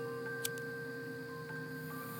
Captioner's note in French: bruit du briquet